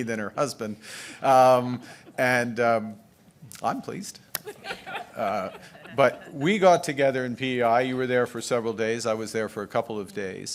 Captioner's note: laughter